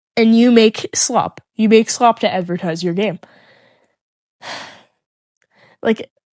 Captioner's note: sighs again